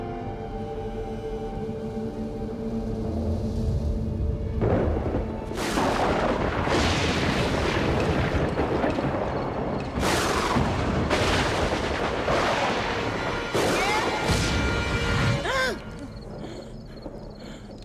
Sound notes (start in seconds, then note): 4.8 thunder claps; 15.4 gasps